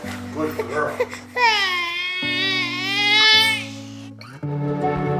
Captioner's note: baby crying; upbeat music